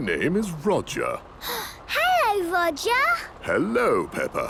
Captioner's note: gasps